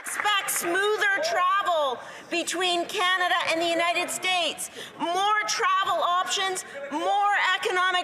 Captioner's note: some Applause